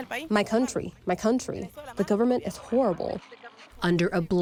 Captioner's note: through translator